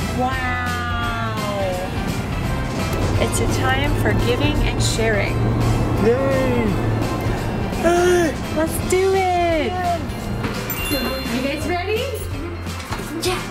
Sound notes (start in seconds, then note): 0.9 festive music; 10.6 sparkling